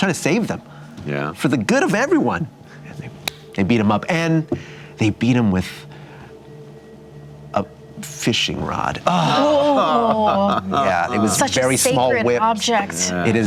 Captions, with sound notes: trying to save them for the good of everyone. (smacking) They beat him up and beat him with a fishing rod. Oh. (laughing) Such a sacred object. Very small whips.